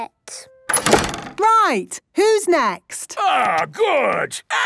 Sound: doors slamming

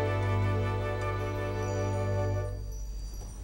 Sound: chimes tinkling

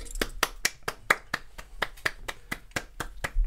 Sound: half-Hearted Clapping

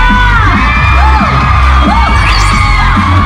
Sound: applause

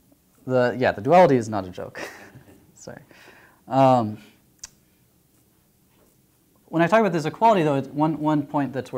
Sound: laughter

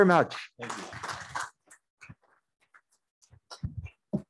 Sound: audience applauding

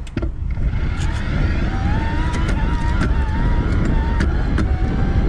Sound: bicycle whirring; wind whooshing

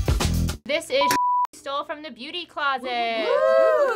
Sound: funky upbeat music; beep; excited whooping

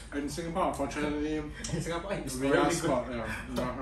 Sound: laughs

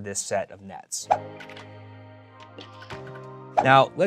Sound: graphic pops

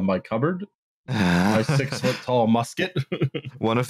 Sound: laughs

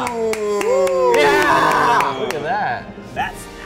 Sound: claps

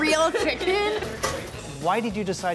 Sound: laughing

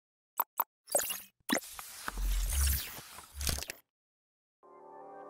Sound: mechanical whirring

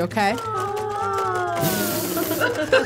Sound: robots clanking; snorts

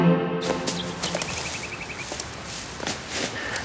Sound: dress rustling

